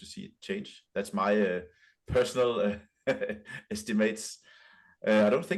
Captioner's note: chuckles